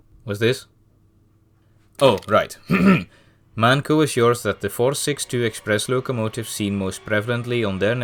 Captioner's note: ahem